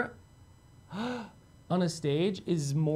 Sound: gasps

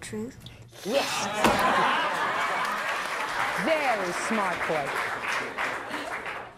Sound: audience applauding

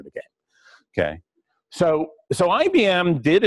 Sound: pause

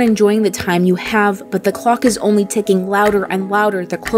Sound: clock ticking

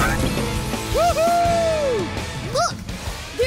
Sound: cheering

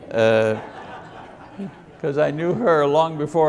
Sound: congregation laughs

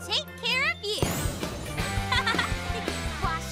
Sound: giggles

